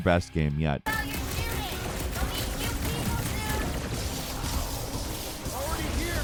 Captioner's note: guns blasting